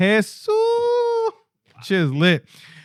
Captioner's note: non-english Speech